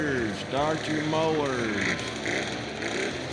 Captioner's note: mover engines revving